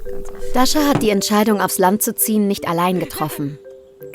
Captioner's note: phone rings